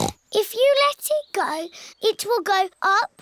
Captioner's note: snorts